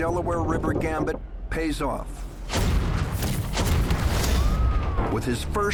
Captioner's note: gunfire and explosions